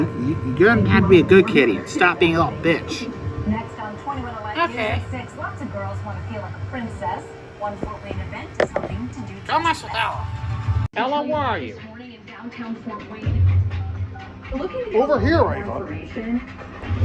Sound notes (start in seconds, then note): 4.5 sarcastically; 9.7 normal voice